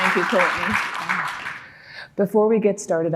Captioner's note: audience applauding